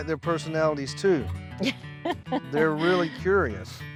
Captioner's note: chuckling